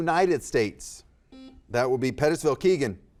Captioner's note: buzzer buzzes